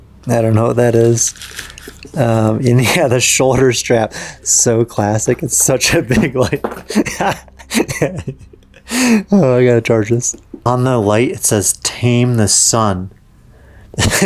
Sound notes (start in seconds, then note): 6.2 speaker laughing; 14.0 laughs